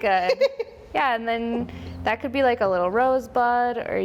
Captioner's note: woman laughs